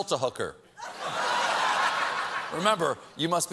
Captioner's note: laughter